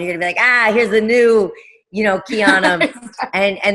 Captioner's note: giggling